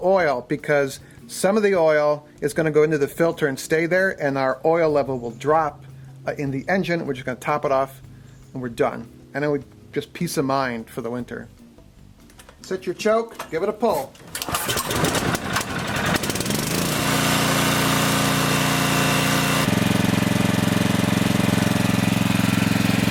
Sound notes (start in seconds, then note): 14.1 engine starts; 17.6 engine purring